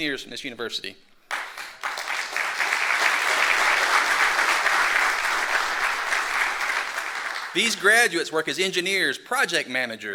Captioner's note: applause